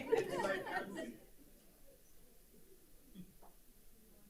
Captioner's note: group laughing